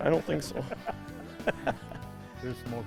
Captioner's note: laughs